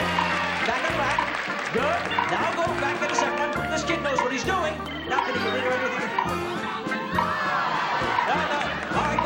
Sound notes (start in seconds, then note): 0.0 audience cheering